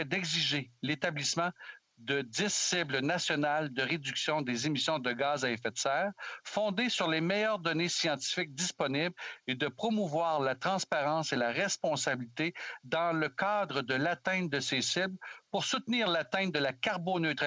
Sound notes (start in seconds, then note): 1.0 speaking French